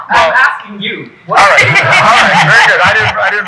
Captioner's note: people laughing